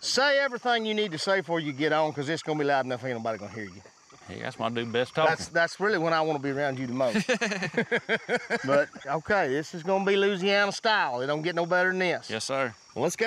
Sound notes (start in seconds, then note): 7.0 everyone laughs